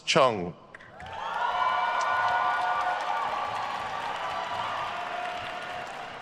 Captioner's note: attendees cheering and applauding